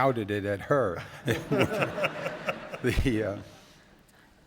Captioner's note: laughter